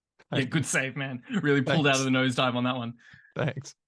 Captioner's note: laughs